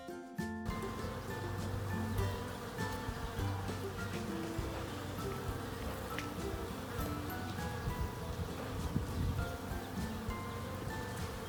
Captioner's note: hundreds of honeybees buzzing